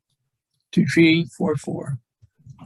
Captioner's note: voice muffling